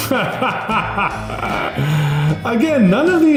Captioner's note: laughs